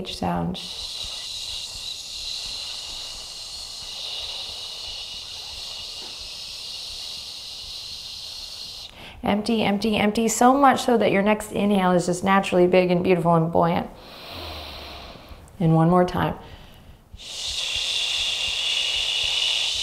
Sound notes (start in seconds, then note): 0.4 exhaling deeply; 14.0 inhaling deeply; 16.4 exhaling deeply